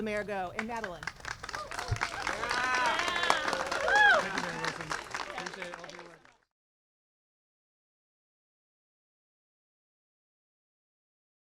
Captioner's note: applause